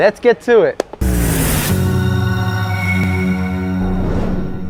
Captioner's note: logo whooshing